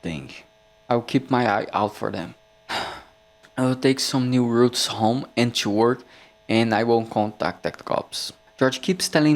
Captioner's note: sigh